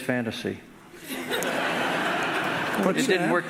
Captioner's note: audience laughing